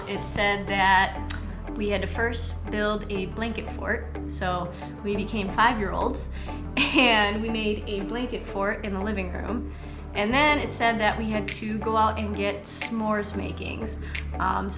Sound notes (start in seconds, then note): 6.8 chuckles